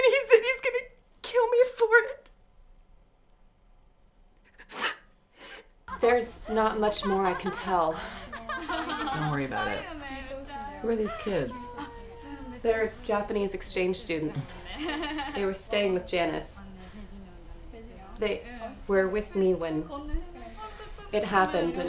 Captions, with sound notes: And he said, he's gonna kill me for it. (sobs gently) - There's not much more I can tell. - Don't worry about it. (both females laughing) Who are these kids? - They're Japanese exchange students. They were staying with Janice. They were with me when it happened,